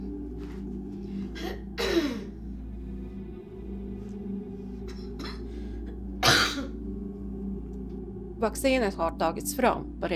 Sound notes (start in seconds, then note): 1.4 clears throat